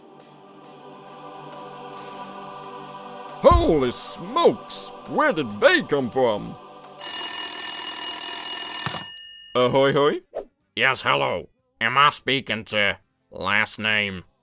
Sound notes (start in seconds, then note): 0.0 heavenly music; 7.0 phone rings